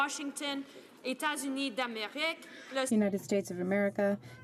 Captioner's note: speaking French